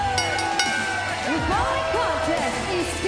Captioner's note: bell